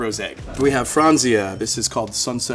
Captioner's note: bell dinging